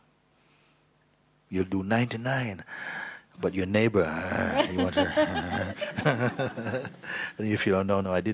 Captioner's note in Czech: smích